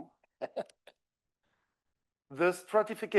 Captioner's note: laughs